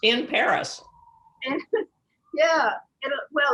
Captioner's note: chuckles